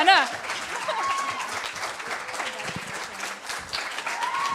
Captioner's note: applause